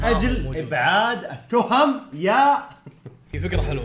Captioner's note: laughs